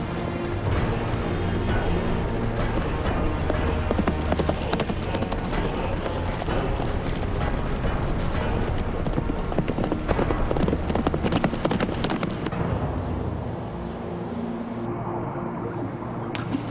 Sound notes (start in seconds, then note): 13.3 wind blowing